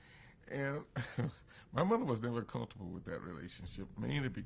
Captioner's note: laughs